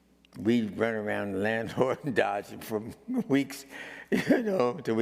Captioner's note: laughing